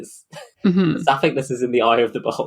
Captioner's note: laughing